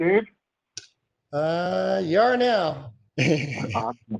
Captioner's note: laughs